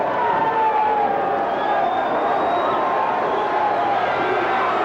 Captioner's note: crowd boos